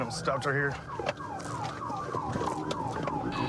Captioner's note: sirens blaring